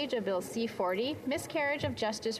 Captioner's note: speaking French